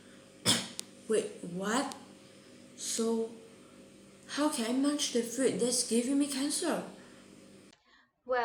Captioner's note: chokes on food